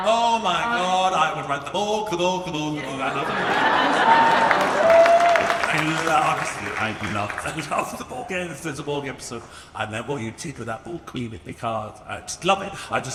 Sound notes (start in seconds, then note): 3.2 audience cheers and applauds